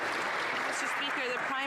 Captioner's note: some Applause